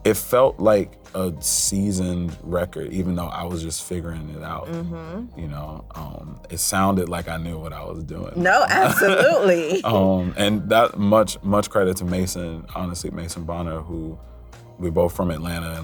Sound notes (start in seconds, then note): 8.4 laughs